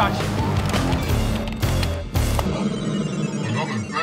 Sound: keyboards clicking

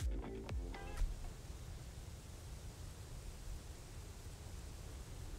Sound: quiet sound of rustling leaves

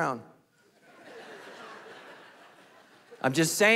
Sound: congregation laughing

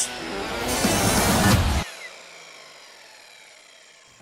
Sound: saw revs down

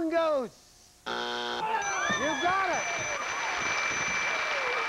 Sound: buzzer

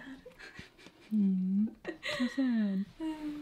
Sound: laughs

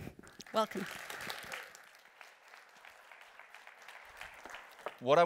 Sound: applause

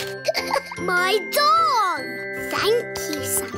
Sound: laughs

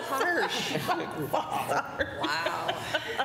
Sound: laughing

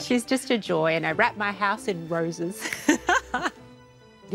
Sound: laughs

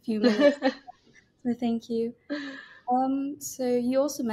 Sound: both laughing

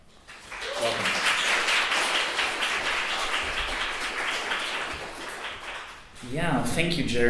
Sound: audience applauds

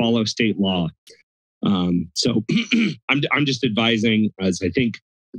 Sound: clears throat

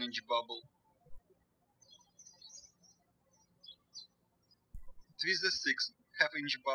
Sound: birds chirping

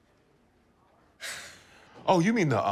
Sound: sighs

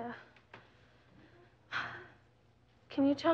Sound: sighing

